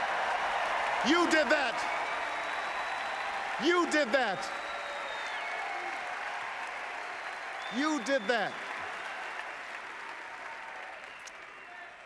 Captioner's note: applause